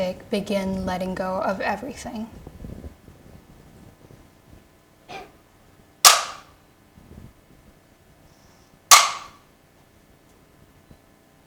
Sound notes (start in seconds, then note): 6.3 bamboo stick clacking